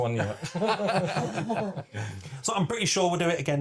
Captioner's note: laughter